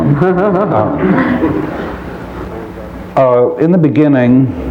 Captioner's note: laughter